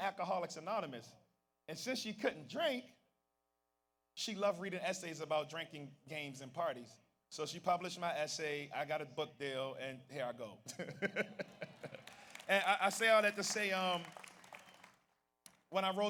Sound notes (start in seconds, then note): 10.7 laughs; 11.5 audience applauds